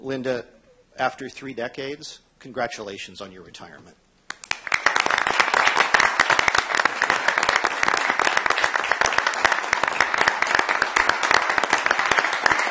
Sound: applause

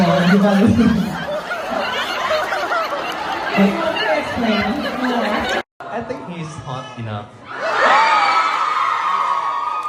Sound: เสียงหัวเราะ; ปรบมือ

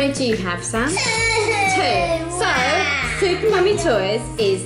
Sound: pretend crying

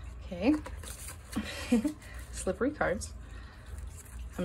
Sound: giggles

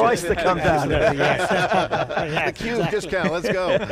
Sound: panel laughs

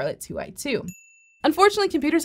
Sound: bell dings

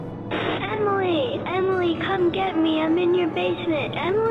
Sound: walkie blips

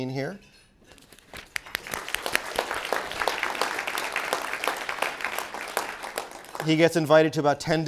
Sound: applause

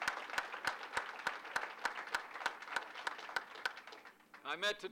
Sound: applause

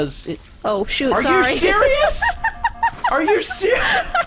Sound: laughs

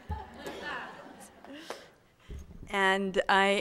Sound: audience laughing

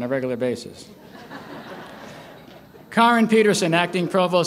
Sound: laughter

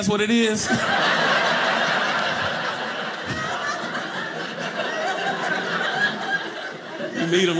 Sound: audience laughing

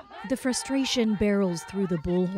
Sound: speaking Foreign Language

